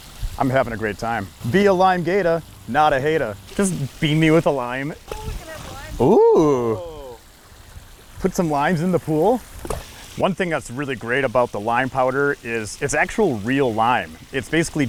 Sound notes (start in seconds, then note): 5.9 splash; 9.6 splash